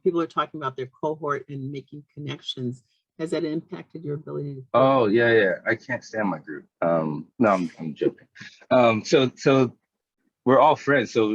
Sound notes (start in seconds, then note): 8.4 chuckling